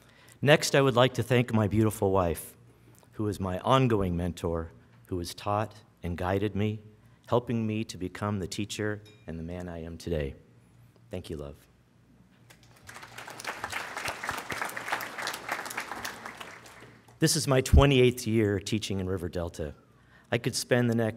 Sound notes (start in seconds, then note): 12.5 applause